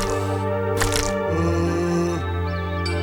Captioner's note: moans